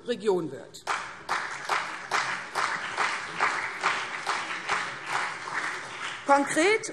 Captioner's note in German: Beifall CDU und BÜNDNIS 90/DIE GRÜNEN